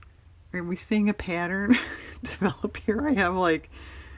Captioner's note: laughs